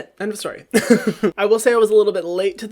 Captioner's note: laughs